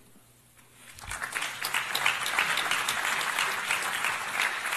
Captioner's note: applause